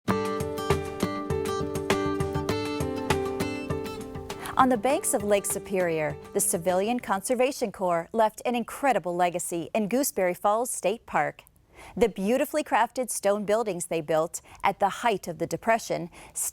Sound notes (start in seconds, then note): 0.1 instrumental music; 4.6 voiceover